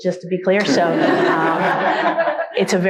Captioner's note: all laugh